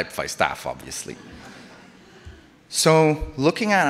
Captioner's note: audience laughs